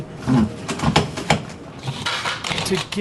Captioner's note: machine ratcheting